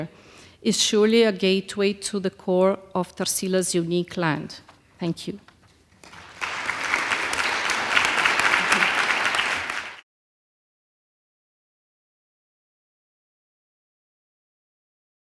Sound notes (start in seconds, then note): 6.0 applause